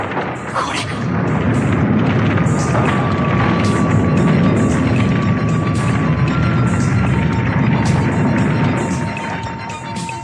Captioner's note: SFX: cave collapsing